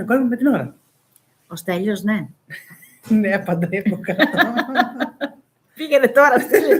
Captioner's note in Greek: γέλια